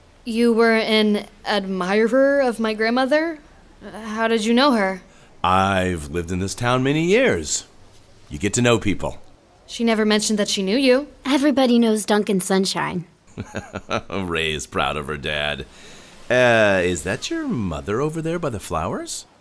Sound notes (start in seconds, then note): 13.3 chuckles